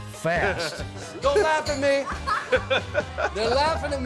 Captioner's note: laughing